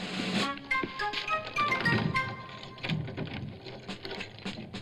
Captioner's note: military drum music; door unlocks; military drum music